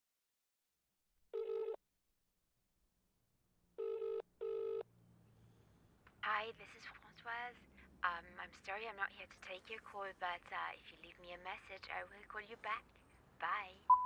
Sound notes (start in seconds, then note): 2.1 line trilling